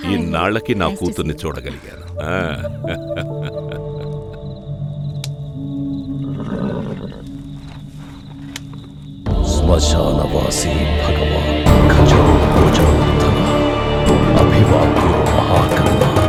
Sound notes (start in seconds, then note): 9.5 chanting